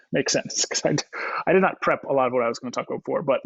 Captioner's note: laughs